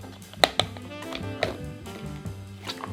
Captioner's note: snapping